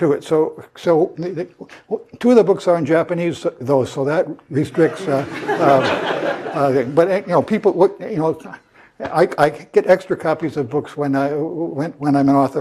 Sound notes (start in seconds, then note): 7.9 laugh